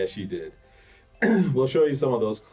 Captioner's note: clears throat